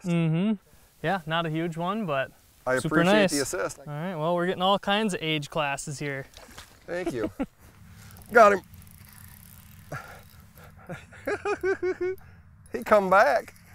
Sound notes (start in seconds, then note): 9.8 laughs